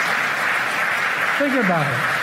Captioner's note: cheers and applause